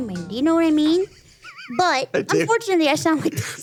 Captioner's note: laughs